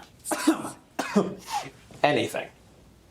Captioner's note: Randall coughs